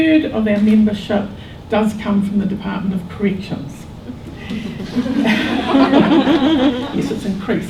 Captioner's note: audience laughter